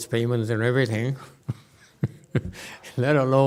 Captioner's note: laughs